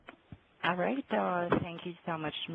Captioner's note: voiceover